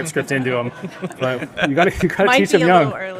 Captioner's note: audience laughing